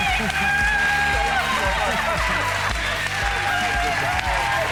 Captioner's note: clapping